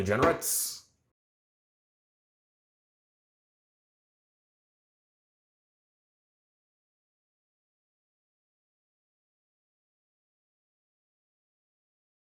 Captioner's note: silent gallery